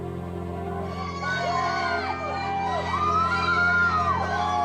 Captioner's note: crowd cheering